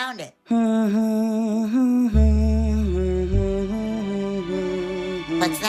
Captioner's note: hum